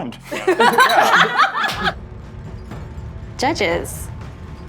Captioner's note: laughing